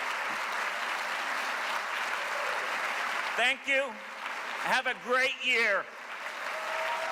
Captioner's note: cheers and applause